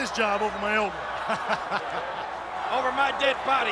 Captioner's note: JR chuckles